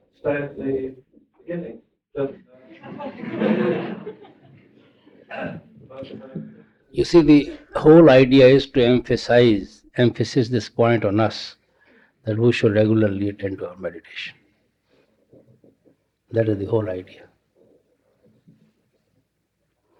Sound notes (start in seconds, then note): 6.2 laughter